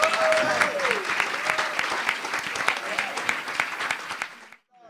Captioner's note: crowd applauds